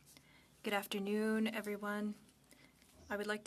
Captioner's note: speaking French